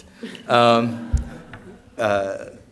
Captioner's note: laughter